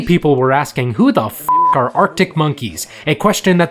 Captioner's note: beep